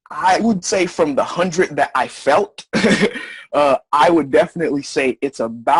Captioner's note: laugh